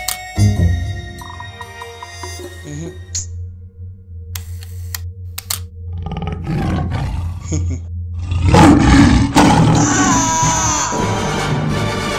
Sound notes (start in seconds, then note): 5.7 tiger roar